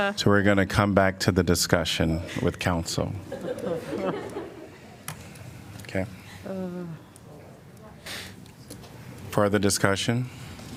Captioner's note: laughter